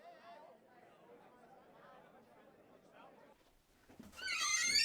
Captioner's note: people chattering indistinctly; door squeaking